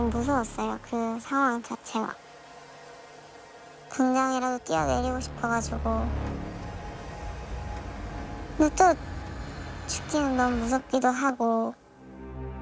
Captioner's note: voiceover